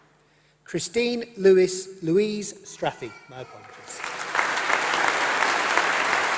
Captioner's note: applause